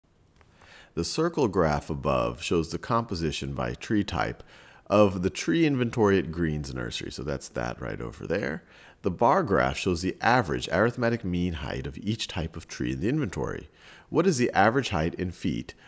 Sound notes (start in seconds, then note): 1.0 voiceover